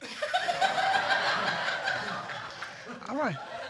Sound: crowd laughing

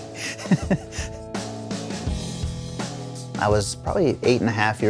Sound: laughing

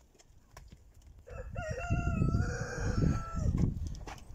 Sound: cock crows

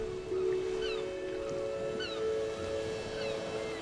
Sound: seagulls calling

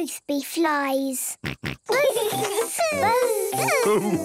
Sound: both buzzing

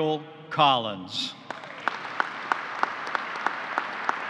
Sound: applause

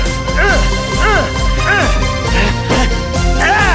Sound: BOTH grunting and fighting

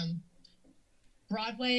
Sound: pause

